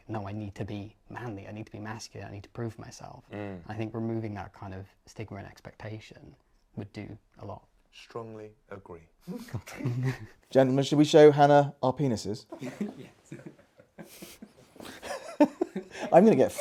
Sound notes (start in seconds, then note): 9.4 guests laughing; 14.2 guests laughing